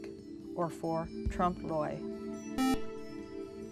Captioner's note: beep